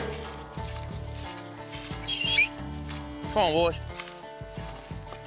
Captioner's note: whistles